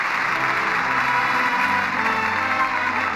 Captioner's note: applause; upbeat music